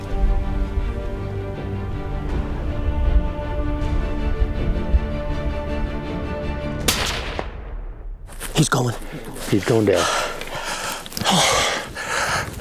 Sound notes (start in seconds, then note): 0.0 tense orchestral music continues; 6.8 gun firing; 9.8 breathing deeply